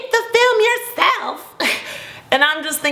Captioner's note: laughing